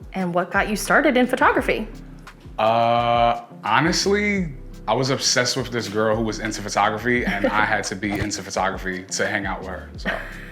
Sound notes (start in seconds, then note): 7.2 laughs; 10.0 both laugh